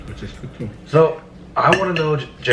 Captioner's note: laughing